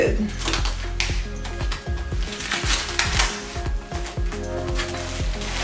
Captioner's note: snapping sound from rubber band; rustling sound